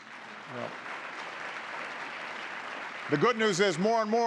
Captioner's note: applause